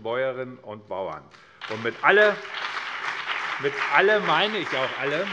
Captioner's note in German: Beifall BÜNDNIS 90/DIE GRÜNEN und vereinzelt CDU